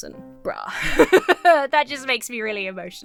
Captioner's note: laughs